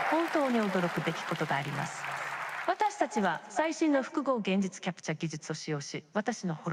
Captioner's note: audience cheering; Simulated Julia speaking in a foreign language